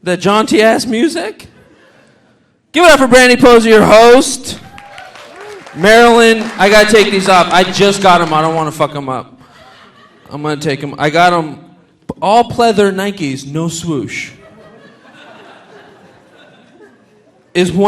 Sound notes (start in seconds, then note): 4.5 audience cheering; 4.6 audience applauding; 14.3 audience laughing